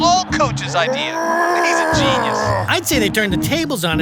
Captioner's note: Vince grunting